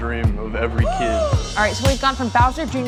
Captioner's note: gasps